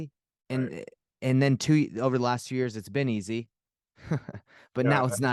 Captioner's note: chuckles